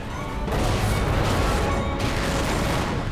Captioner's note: explosions